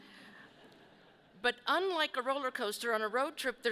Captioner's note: people chuckle